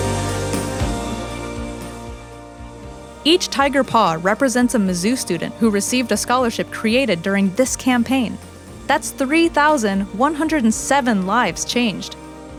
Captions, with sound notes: - [Voiceover] Each tiger paw represents a Mizzou student who received a scholarship created during this campaign. That's 3,107 lives changed!